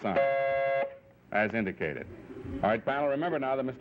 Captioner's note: light buzzes